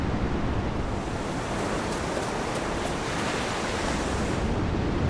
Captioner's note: surf breaking